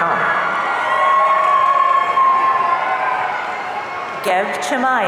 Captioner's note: audience cheering